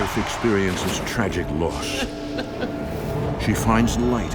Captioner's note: sobbing